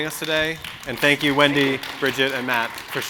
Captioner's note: audience clapping